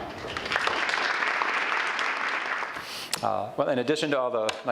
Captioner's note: audience applauds